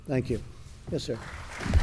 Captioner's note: applause